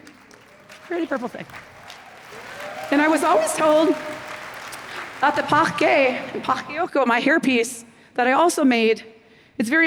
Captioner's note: applause